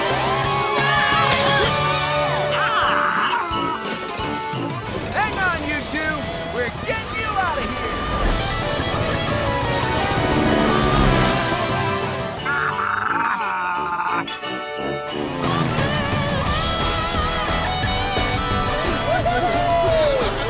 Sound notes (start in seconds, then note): 0.1 screaming; 2.4 growling; 12.0 growling